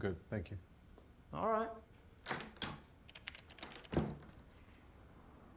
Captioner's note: door opens, closes